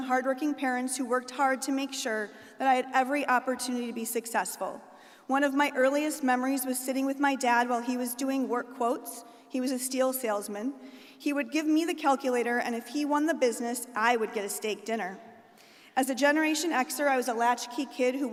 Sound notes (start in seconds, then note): none